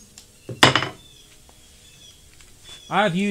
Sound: hammer clacking on surface

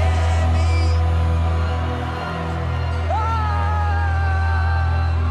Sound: cheering

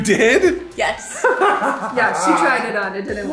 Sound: laughing

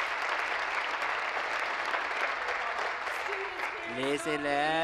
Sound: applause

